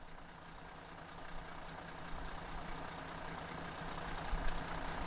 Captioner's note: car engine running